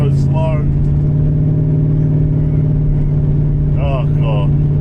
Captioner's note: engine revving